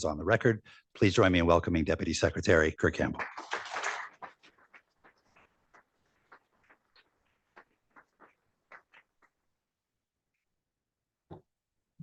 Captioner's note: applause